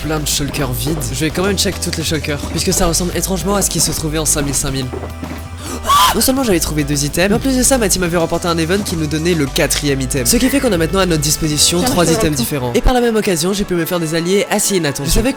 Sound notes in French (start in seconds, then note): 5.6 cri